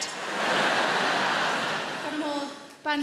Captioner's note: crowd laughs